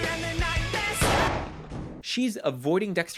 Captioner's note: boom